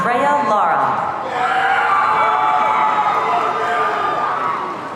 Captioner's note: audience cheering